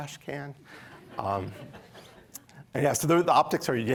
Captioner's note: laughter